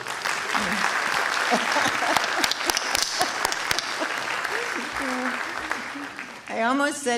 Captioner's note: applause & laughter